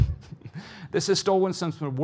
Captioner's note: laughing